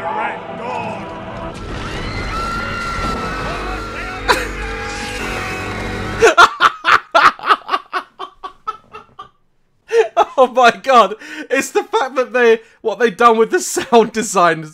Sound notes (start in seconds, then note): 6.1 more laughing